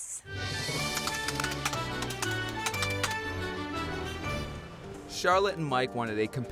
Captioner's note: keyboard typing; orchestral music